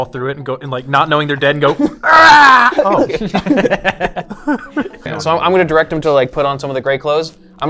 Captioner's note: screams